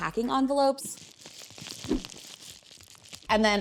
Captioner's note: bubble wrap pops